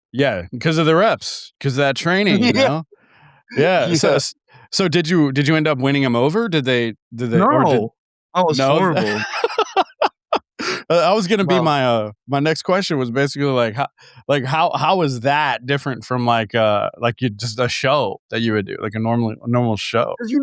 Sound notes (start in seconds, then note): 8.6 both laughing